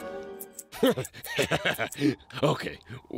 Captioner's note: laughs